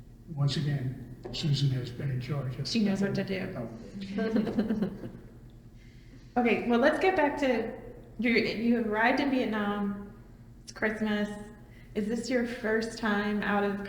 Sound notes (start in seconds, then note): 3.9 laughs